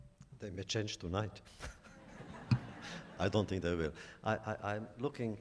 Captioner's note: laughter